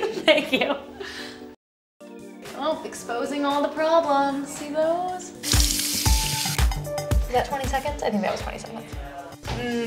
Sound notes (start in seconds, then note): 0.2 laughing; 5.4 water burbling